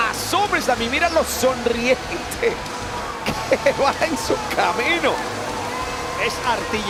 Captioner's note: laugh